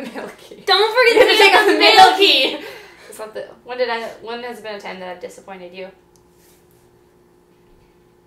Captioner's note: laughing